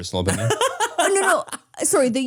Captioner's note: Manny laughs